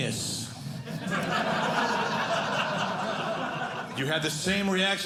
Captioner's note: audience laughing